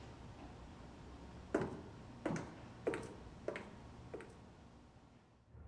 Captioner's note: footsteps clacking